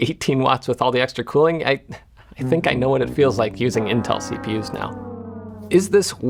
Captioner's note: sarcastically